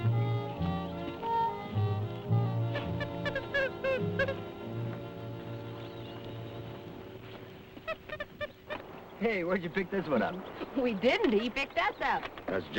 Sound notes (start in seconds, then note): 2.4 animal chattering; 2.4 birds chirping